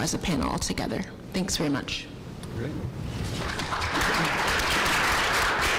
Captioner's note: applause